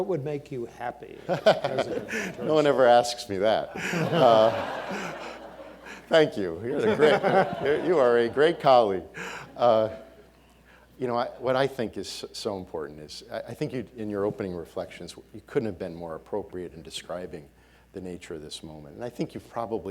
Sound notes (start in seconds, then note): 1.2 laughing; 3.5 audience laughing